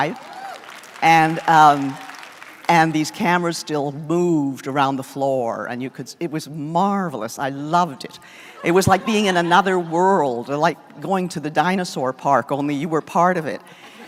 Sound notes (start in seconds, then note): 5.0 applause